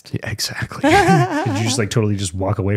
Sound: laughing

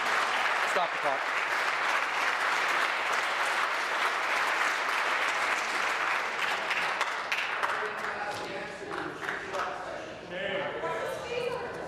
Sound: applause

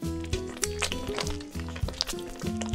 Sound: drippy drippy

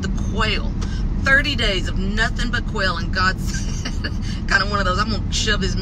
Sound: laughs

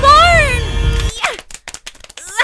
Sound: bitch slapping

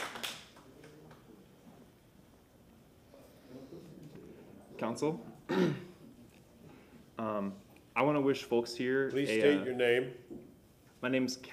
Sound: applause

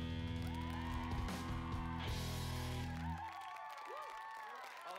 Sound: crowd applauding

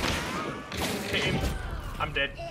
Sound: player death sound

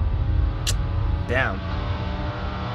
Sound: lips smack

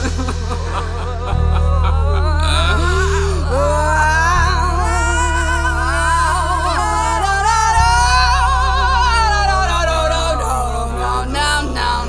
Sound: wailing vocalizations

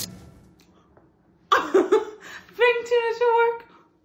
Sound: laughs

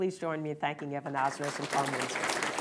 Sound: applause

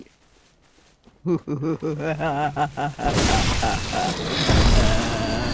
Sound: sinister laugh

